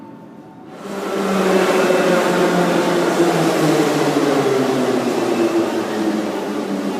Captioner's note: arrival of train at the station